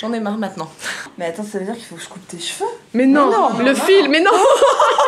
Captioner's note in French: rires